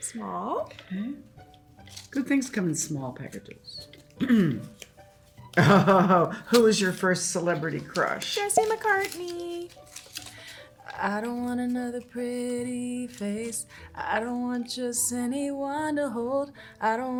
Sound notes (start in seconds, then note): 5.6 Hannah laughing; 8.3 air pops